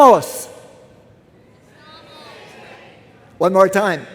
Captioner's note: various shouts from crowd